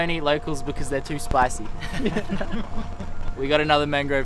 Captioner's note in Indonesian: laugh